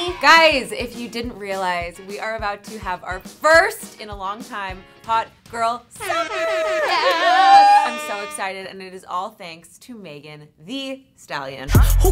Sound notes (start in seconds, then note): 6.0 air horn blowing; 6.1 cheering